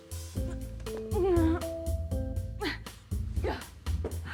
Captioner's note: Joan grunting